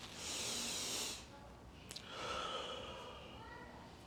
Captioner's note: breathing deeply